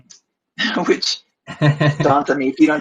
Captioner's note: laughs